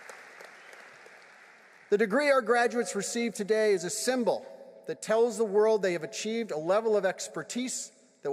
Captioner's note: applause